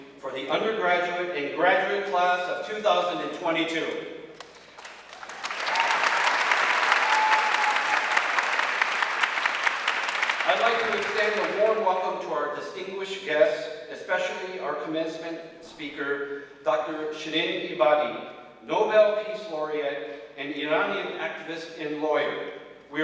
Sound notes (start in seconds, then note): 4.3 audience clapping; 5.1 audience cheering